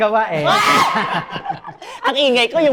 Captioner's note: laughs